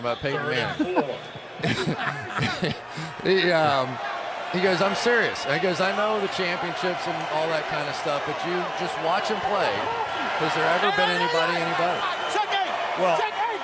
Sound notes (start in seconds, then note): 1.6 laughter